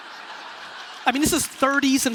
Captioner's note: laughing